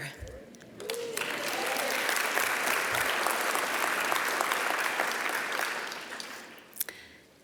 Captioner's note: applause